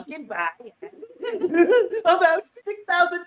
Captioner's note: laughing